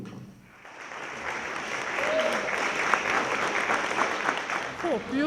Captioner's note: applause